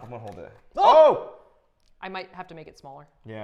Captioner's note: Tyler and Safiya yelling loudly